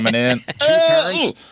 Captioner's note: mimicking noises